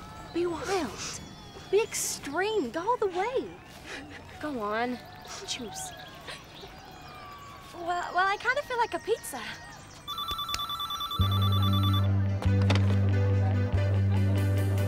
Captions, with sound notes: Be wild, be extreme, go all the way. Go on, you choose. - Well I kinda feel like a pizza. (phone ringing)